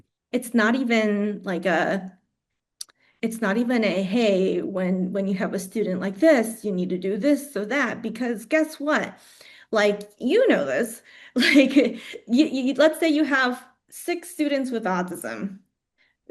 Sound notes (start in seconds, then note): 11.2 laughs